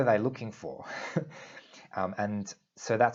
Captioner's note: chuckles